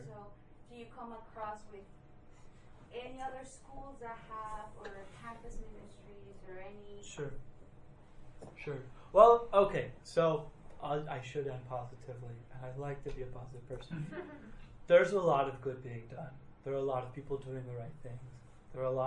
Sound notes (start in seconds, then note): 13.8 laughing